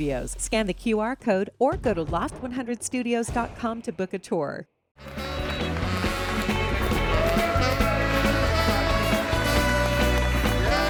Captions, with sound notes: Scan the QR code or go to loft100studios.com to book a tour. (upbeat music) (audience cheers) - Look at these guys.